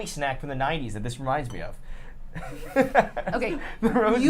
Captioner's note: laughs